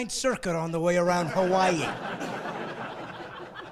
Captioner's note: laughing